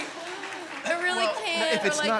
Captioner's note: applause